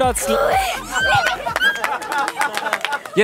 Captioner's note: Jubelschreie, Klatschen